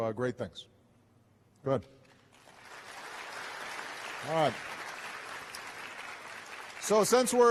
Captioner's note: applause